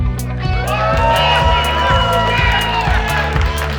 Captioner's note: crowd cheers